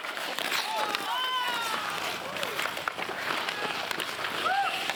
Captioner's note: spectators cheering